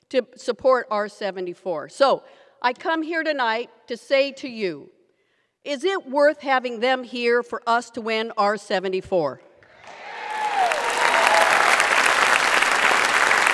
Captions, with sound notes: to support R-74. So I come here tonight to say to you, is it worth having them here for us to win R-74? (audience applauds)